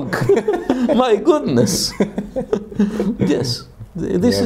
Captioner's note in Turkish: Gülüşmeler